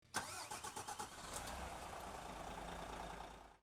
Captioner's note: engine starting